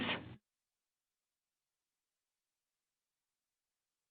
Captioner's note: silence